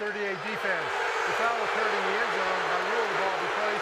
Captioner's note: booing